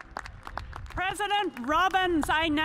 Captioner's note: cheers and applause